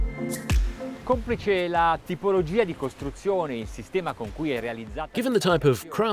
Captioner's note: speaking in foreign language